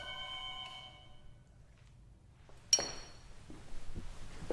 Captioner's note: doorbell ringing